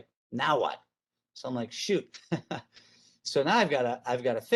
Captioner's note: chuckle